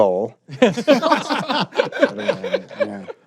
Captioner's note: laughter